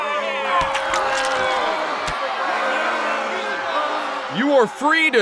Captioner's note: crowd jeering; tomatoes squishing